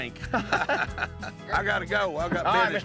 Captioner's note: everyone laughs